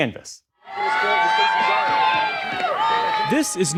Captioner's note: cheering